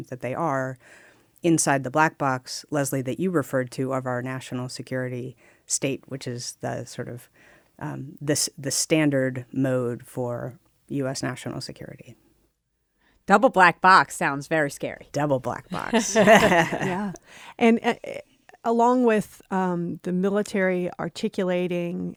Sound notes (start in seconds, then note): 15.7 laughter